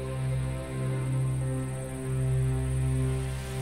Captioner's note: cicadas